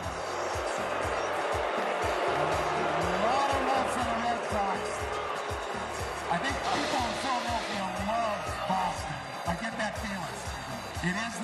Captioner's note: booing